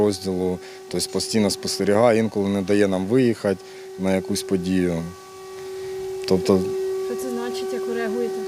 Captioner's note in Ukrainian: чутно тривогу